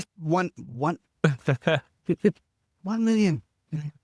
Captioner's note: laughing